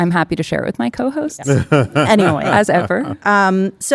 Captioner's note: laughing